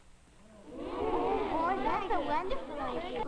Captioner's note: murmurs of agreement